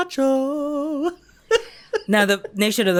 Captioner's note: giggles